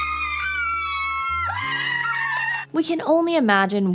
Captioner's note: screaming